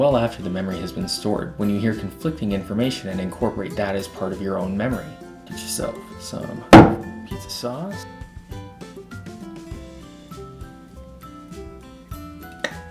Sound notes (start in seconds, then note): 9.9 bang